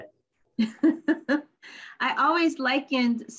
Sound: laughs

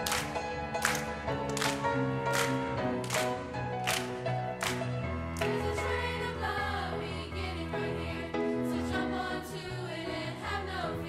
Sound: clapping

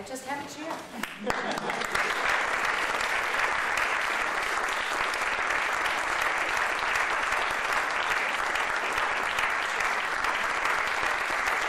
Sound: laughter

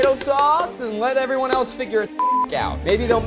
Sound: beep

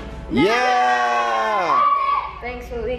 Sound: cheering

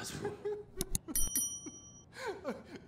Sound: man speaking in foreign language; man crying; bell dinging

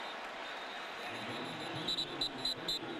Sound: whistle

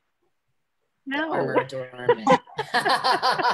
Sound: laughing

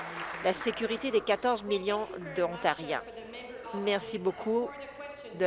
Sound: applause

